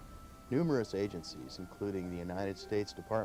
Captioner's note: voiceover